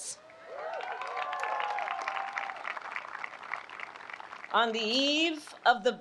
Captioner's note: applause